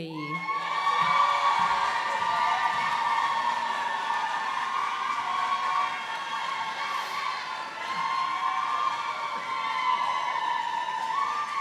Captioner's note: applause